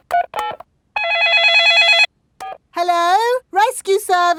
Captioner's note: dialing; cell phone ringing